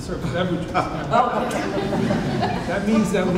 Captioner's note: audience laughs